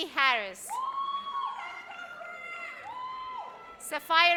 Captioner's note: audience cheers